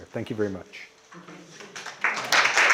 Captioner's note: applause